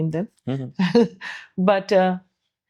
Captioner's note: laugh